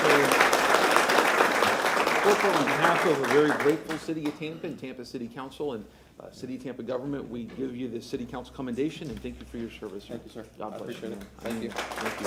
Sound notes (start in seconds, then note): 4.8 applause